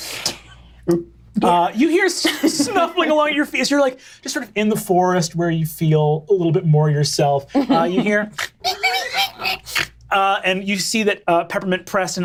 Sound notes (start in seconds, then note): 8.3 imitates pig oinking